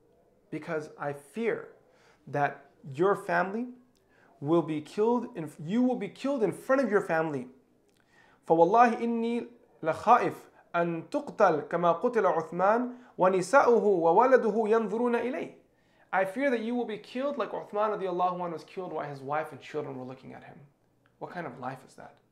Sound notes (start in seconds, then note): 8.0 speaking in Arabic